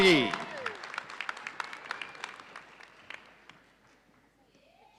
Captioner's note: audience cheering